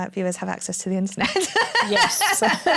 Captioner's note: laughter